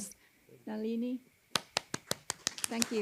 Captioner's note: applause